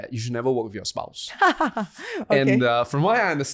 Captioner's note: laughs